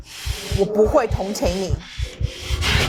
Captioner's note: Mandarin language